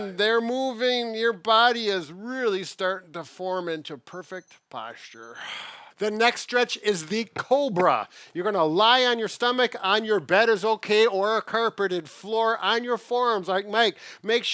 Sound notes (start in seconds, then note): 5.6 exhales strongly